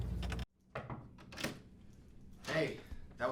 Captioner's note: knocks